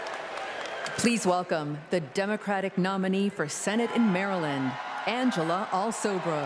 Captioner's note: applause